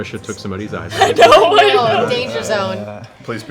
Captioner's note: laughs